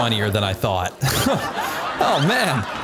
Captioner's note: crowd laughing